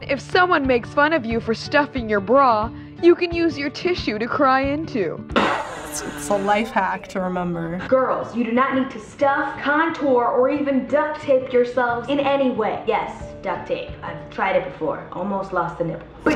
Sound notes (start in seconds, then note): 5.3 blowing nose; 16.1 winces